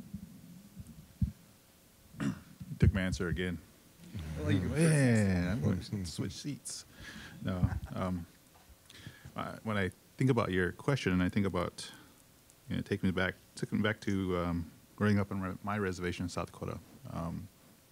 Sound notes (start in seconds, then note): 3.8 audience laughing